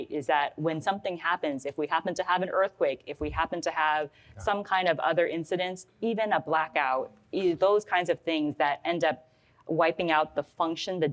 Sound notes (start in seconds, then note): none